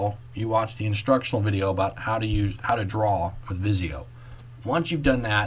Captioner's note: click